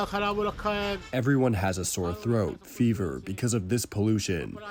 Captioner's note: through translator